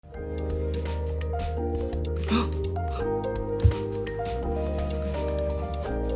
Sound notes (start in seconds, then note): 0.0 bright music; 2.2 gasps